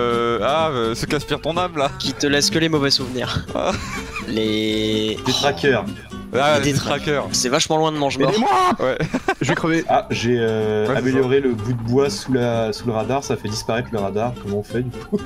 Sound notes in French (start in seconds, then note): 8.0 rire